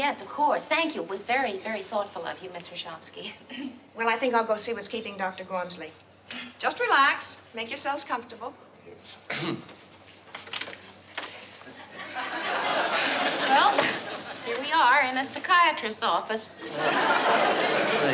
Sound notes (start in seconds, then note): 9.3 clears throat